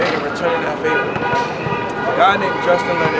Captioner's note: car honking